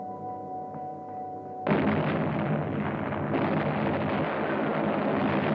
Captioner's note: heavy gunfire